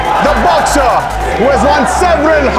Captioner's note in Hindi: none